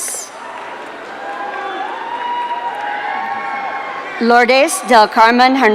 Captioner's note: audience cheering